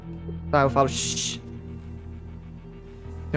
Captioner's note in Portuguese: Shhhh